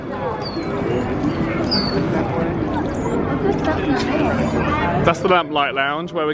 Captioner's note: people chattering